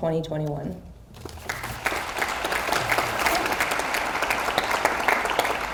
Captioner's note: audience applauds